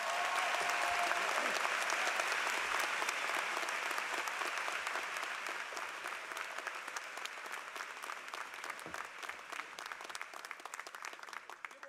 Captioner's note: applause